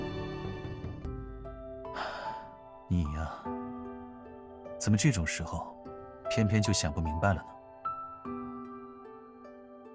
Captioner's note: sighs